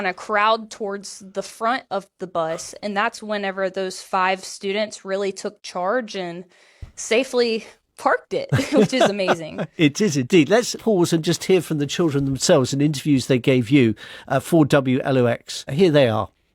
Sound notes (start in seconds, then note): 8.5 laughs